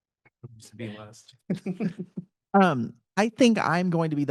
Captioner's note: panelist laughing